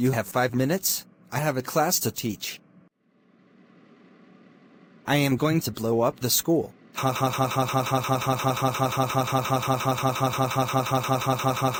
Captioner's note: CJ Laughing